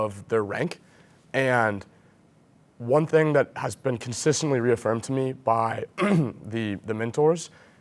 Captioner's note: cough